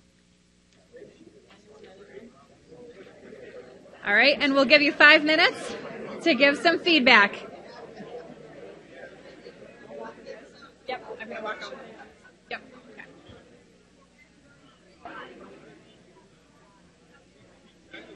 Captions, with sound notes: (crowd murmurs) All right, and we'll give you five minutes to give some feedback. (crowd noise drowns speaker) Yep, I'm gonna walk over there. - Yep. - Yep. (crowd murmurs)